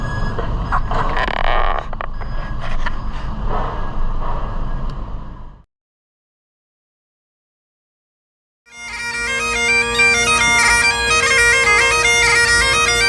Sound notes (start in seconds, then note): 5.0 background noise stops; 8.7 bagpipe playing